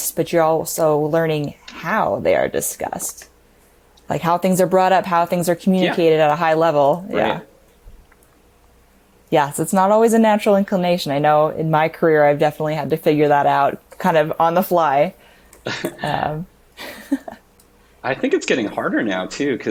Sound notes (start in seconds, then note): 16.8 both laughing